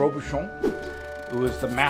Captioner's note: air whooshing